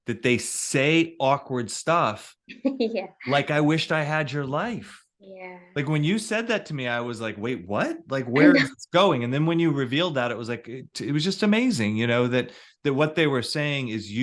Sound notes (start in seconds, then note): 2.7 chuckles